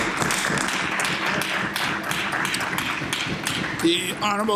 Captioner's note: applause